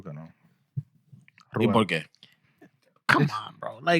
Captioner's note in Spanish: Hablando en idioma extranjero